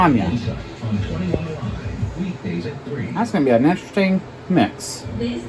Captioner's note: "21Alive News at 5" plays in background